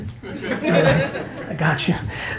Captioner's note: audience laughing